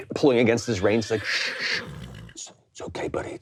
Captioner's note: yam neighing